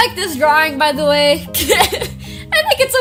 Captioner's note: laughs